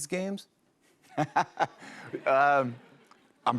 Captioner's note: laughs